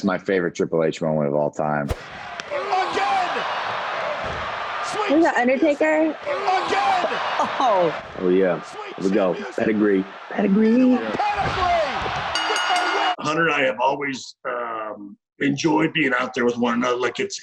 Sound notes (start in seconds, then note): 12.6 bell rings